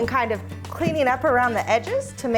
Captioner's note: knife scrapes